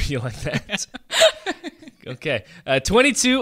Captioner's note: laughs